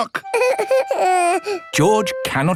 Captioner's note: whimpers